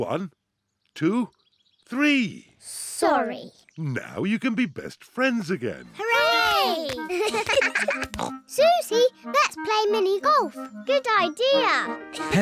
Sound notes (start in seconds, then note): 7.0 both giggle